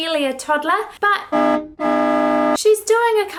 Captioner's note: horn honks